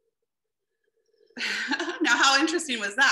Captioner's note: laughs a little